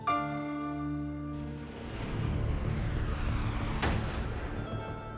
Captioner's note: dramatic sound